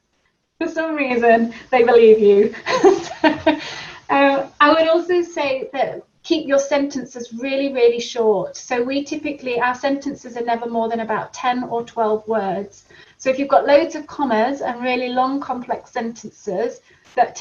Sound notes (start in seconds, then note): 2.6 laughs